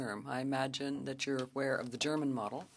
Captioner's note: speaking French